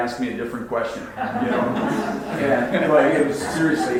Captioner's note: audience laughs